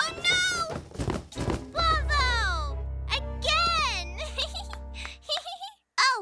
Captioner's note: giggles